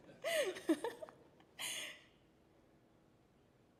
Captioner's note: chuckles